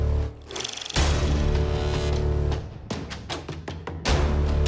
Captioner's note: dramatic music; reel flickering